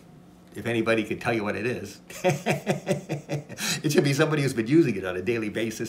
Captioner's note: laughs